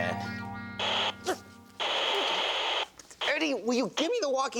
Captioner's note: radio crackles